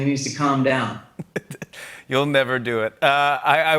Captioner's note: chuckles